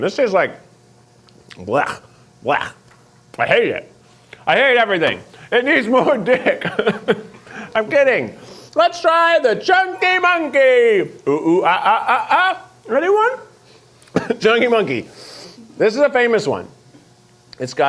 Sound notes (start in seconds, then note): 5.9 laughs